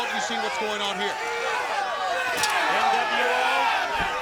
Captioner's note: crowd shouting